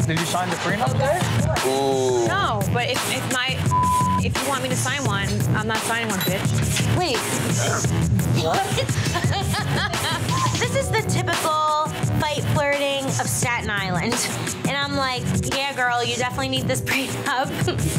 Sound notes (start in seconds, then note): 3.6 beep; 8.3 laughing